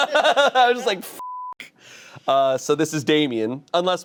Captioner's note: laughing; beep